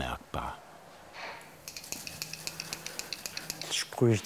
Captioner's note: high-pitched clicking of the spray can